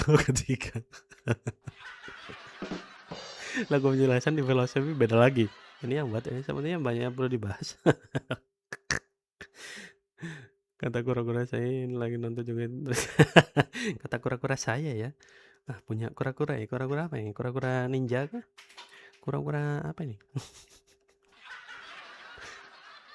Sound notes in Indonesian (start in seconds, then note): 0.9 tertawa; 8.7 tertawa; 9.5 terkesiap